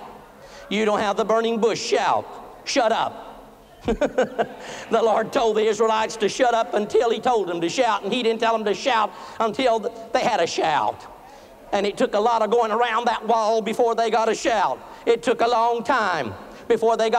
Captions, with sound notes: YOU DON'T HAVE THE BURNING BUSH SHOUT. SHUT UP! [LAUGHTER] THE LORD TOLD THE ISRAELITES TO SHUT UP UNTIL HE TOLD THEM TO SHOUT. AND HE DIDN'T TELL THEM TO SHOUT UNTIL THEY HAD A SHOUT, AND IT TOOK A LOT OF GOING AROUND THAT WALL BEFORE THEY GOT A SHOUT. IT TOOK A LONG TIME BEFORE THEY GOT A SHOUT.